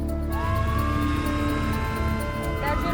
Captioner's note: siren wails